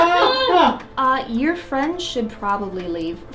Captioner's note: demonic growl; yelling